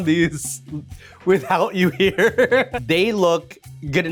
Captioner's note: laughs